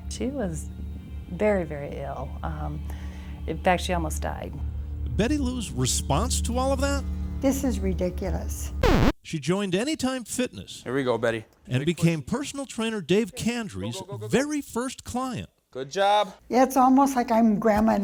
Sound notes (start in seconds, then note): 8.8 record scratch